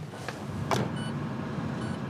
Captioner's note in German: Piepssignal